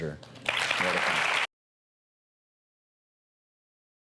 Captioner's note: audience applauds